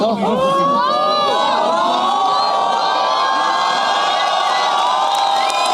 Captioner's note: crowd realization; applause